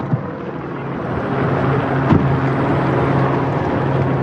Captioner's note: helicopter blad whirring